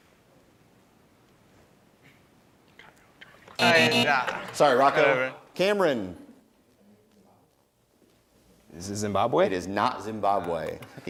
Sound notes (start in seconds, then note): 3.6 buzzing